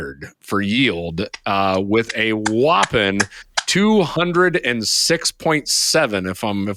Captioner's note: applauding